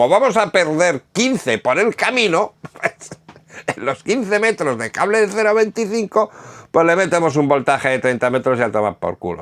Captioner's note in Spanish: risas